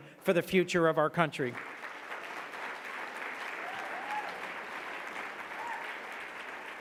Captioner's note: audience clapping and cheering